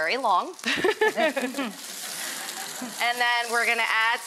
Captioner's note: laughing